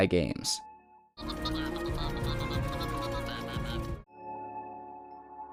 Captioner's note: BD-1 chitters excitedly